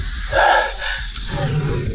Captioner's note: sighs